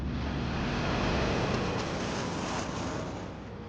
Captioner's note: plane soaring